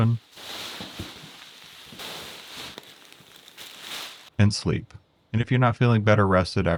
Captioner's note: paper rustling